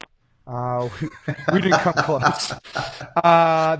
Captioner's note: laughing